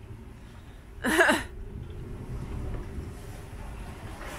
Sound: laughs

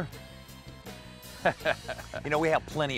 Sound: laughs

